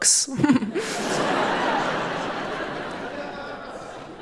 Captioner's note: audience laughing